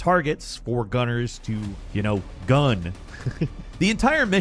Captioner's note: chuckles